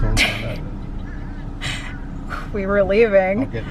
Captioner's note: laughing